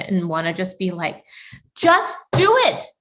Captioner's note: pounding surface